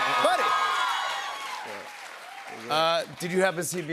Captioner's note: cheers and applause